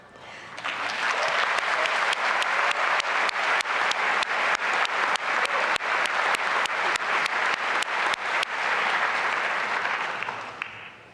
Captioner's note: applause